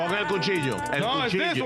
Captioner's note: speaking In Foreign Language